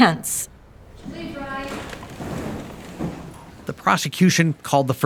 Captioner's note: crowd chattering